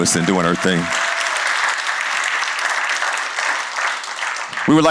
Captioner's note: cheers and applause